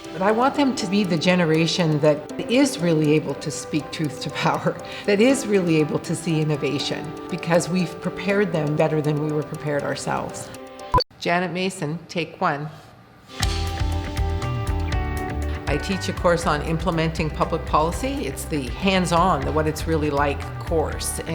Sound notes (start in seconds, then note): 10.9 beep; 13.3 light music